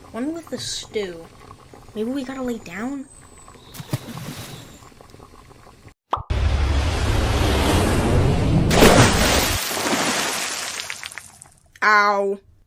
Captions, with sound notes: One with the stew.. Maybe we gotta lay down? [splash] [pop] [falling] 𝘚𝘗𝘓𝘈𝘚𝘏 ow